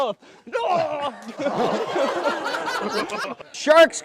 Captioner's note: laughter